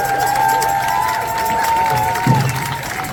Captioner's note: applause